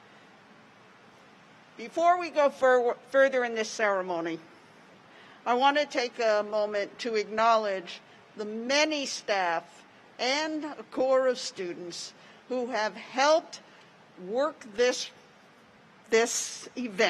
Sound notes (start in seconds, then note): none